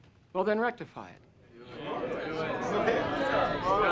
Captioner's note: commotion